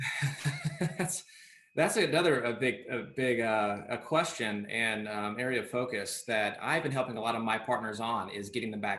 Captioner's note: laughs